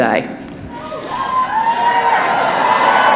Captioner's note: cheering